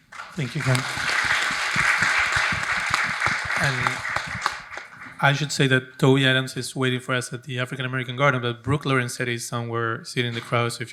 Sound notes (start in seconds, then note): 0.0 audience applauding